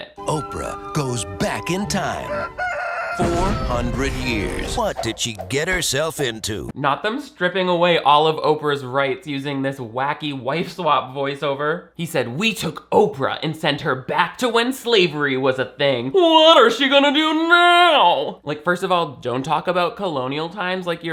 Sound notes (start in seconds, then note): 2.1 rooster crows